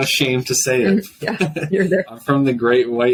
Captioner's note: laughs